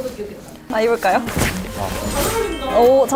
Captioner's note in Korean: 촤악